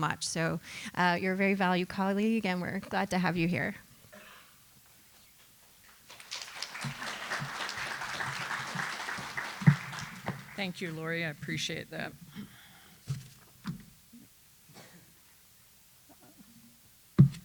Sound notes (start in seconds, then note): 5.8 applause